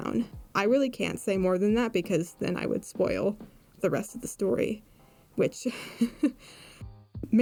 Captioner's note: laughs